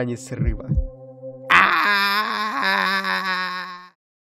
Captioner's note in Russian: Панический визг